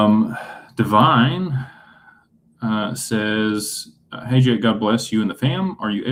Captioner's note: sighs